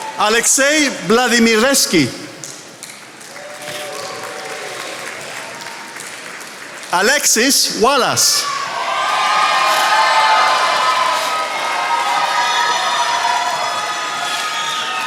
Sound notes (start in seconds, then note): 2.6 attendees applauding; 8.9 attendees applauding